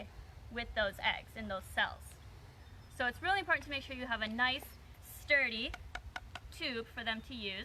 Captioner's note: taps tubes together